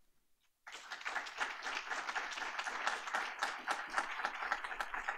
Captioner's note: applause